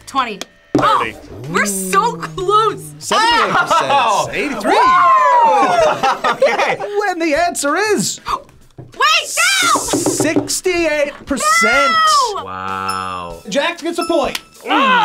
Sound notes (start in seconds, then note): 4.2 laughs; 6.0 laughs; 8.4 gasps